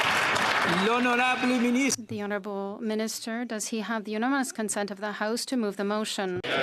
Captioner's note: applause